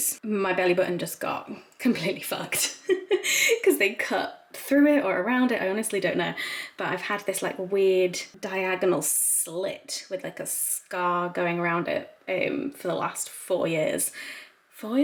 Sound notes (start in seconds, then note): 2.6 giggles quickly